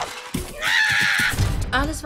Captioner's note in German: schreit